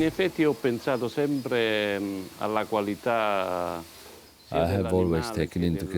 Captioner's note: speaks italian